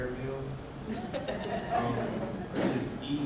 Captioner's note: audience laughing